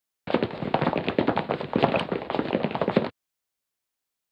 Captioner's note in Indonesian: suara lari-larian